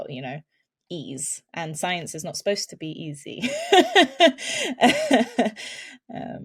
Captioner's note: laughs